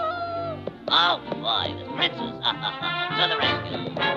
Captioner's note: chuckling; horse clopping